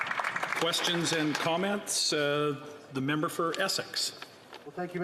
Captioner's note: applause